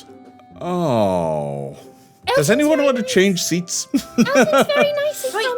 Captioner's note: laughing